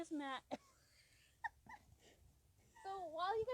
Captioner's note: laughing